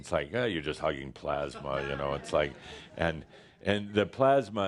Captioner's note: some chuckles